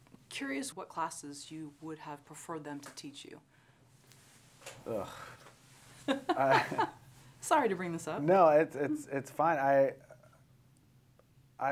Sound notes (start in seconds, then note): 4.8 sighs; 6.1 laughs